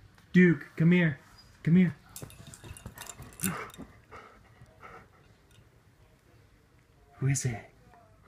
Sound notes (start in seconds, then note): 2.3 Duke panting excitedly